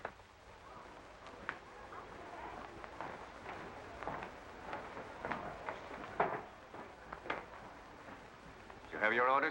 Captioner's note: guests chattering